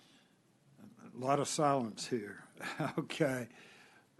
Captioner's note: laughter